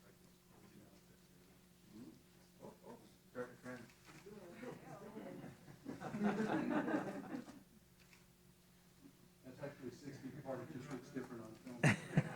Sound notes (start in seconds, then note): 4.6 laughter